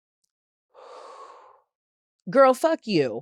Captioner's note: exhales loudly